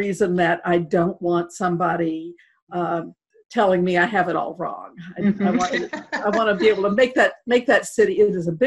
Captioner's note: laughter